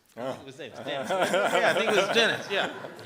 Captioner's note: laughter drowns out dialogue